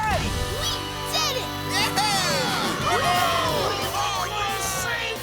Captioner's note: cheering